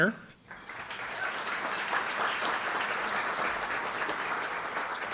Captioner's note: audience applauding